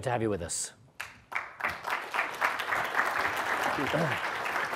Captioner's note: audience clapping